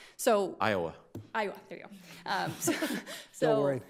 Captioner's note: all laughing